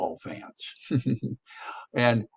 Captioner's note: instructor chuckles